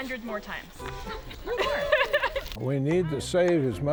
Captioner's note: laughs